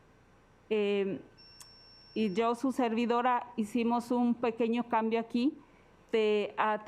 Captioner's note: alarm beeping; speaking Spanish